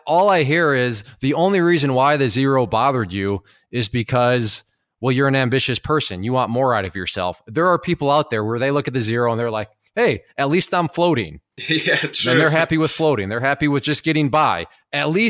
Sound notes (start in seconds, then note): 11.6 laughs